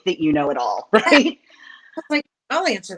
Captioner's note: chuckles